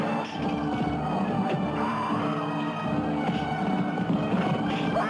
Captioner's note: men grunting